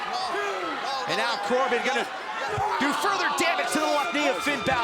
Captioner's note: crowd chatter